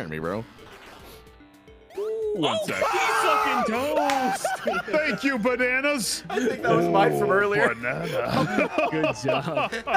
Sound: screams; laughs

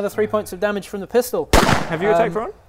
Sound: pow!

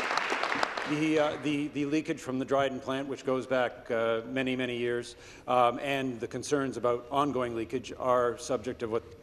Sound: some Applause

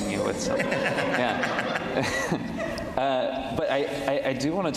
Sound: all laughing; laughs

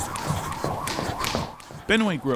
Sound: blows air; gloves smacking; jump rope whirring

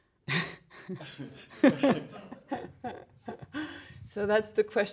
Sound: laughing

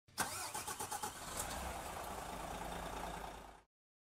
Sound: car engine sputters

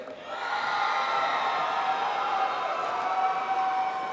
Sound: applause

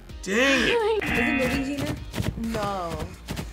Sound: buzzer

